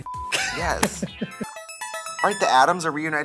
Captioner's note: ringing sound